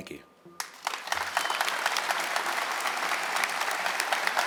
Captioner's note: audience clapping